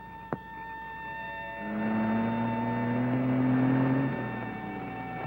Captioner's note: soft music; car engine revving